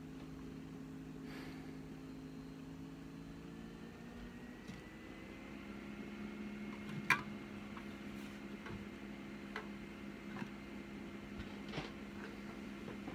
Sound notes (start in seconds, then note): 1.2 exhales